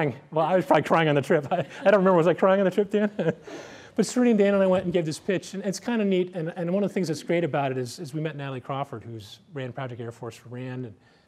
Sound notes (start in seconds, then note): 2.8 laughter